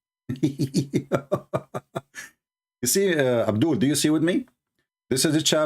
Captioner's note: Ketawa